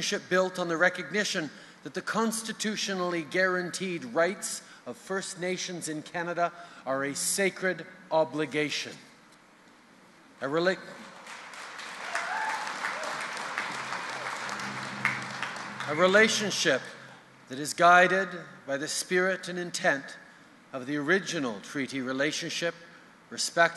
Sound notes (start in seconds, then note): 11.0 applause